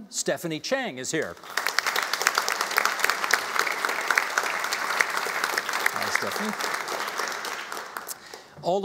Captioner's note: applauding